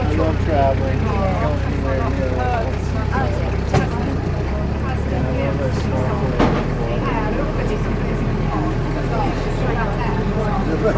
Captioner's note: engine Noise and People Speaking